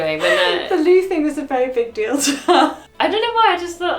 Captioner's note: laughs